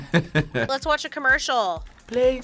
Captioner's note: laughs